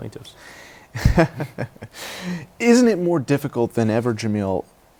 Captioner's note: laughter